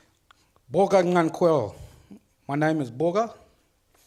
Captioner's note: speaks foreign language